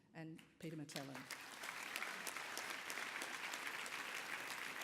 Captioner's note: applause